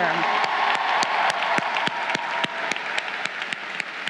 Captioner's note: crowd cheering